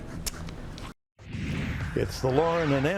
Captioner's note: air whooshing